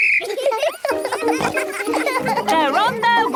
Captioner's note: blows whistle; giggling